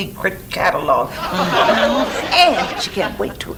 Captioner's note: audience laughs